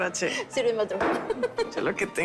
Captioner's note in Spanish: Risas